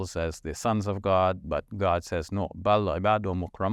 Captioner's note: speaking in foreign language